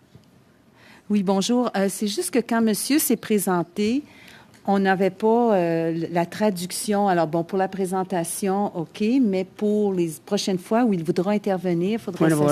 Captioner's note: speaking French